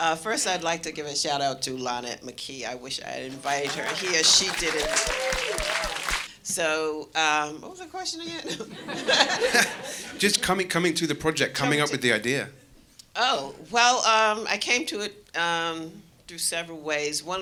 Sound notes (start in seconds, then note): 3.3 audience cheering; 8.6 audience laughing